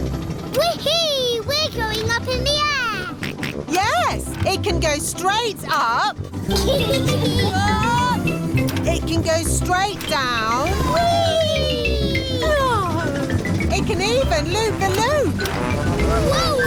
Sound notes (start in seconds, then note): 3.2 snorts; 6.4 kids giggling